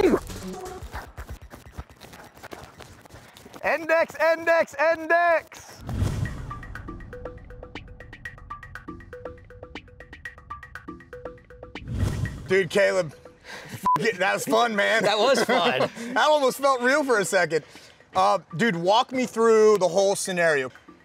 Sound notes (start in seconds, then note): 5.8 percussive music; 13.8 beep